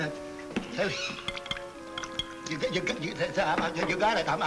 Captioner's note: Danny stutters